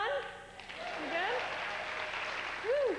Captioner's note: applause